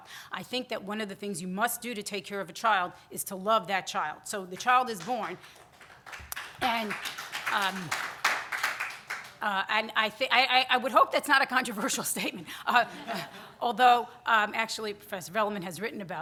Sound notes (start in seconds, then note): 5.2 scattered audience applause; 8.9 laughing; 12.8 audience chuckles